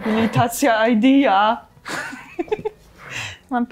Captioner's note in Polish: śmiech